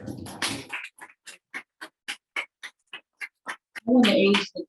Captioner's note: audience applauding